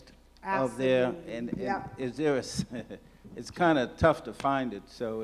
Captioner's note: laughs